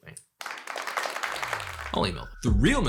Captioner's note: applause